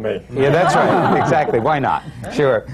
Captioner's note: laughter